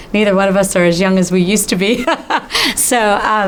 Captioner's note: laughs